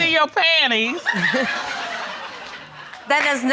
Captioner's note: audience laughing